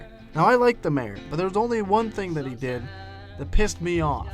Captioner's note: none